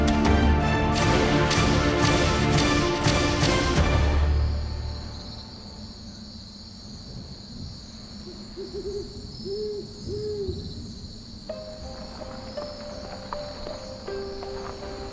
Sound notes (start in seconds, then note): 5.2 crickets chirping; 8.2 owl hooting; 11.5 mysterious music